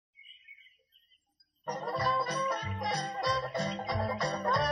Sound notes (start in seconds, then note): 0.1 birds chirping; 1.7 lively jazz music